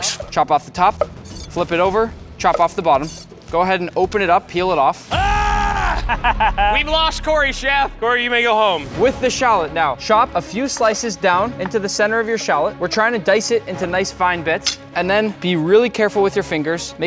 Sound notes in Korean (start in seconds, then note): 5.8 웃음